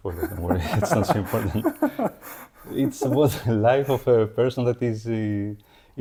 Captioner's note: laughing